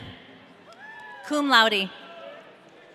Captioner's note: audience cheering